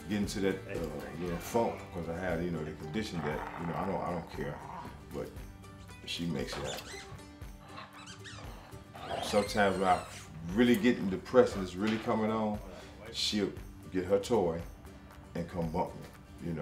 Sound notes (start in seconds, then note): 7.6 toy squeaking